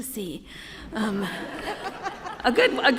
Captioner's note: laughter